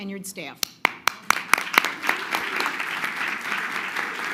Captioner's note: crowd clapping